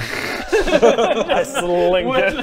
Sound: laughs

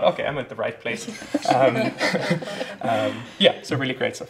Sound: laughs

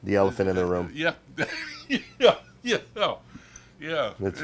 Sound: chuckles

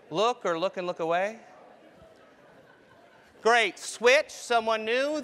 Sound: laugh

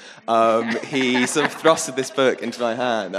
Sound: audience laughing

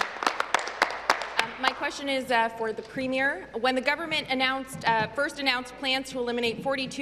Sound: applause

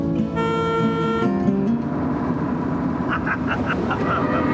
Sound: car horn beeping; laughing

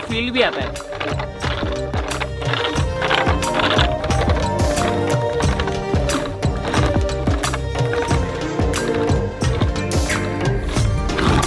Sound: churning

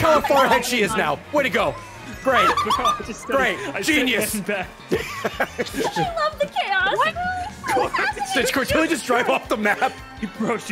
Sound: laughs

